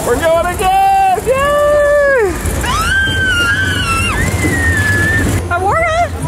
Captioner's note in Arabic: صراخ